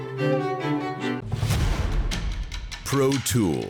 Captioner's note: classical music; air whooshes